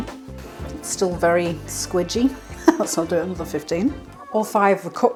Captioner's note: laugh